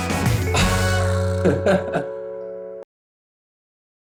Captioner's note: laughs